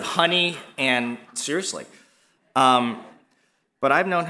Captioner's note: laugh